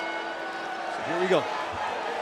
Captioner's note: bell ringing